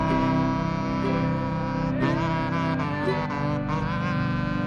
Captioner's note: duck calls